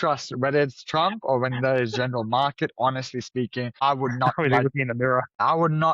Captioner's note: laughs